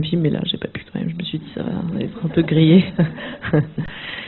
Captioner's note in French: rires